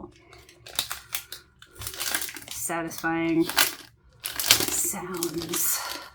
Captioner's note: cellophane crinkle noises